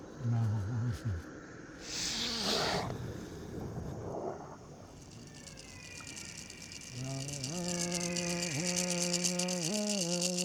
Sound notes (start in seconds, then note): 1.7 inhales sharply; 5.0 rattling; 7.1 chanting in Wichí-weenhayek